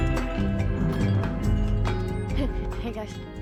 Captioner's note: bells jingle